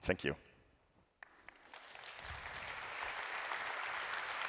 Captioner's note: applause